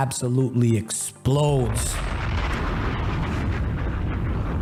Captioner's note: bang